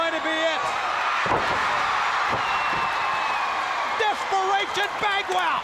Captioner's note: crowd cheering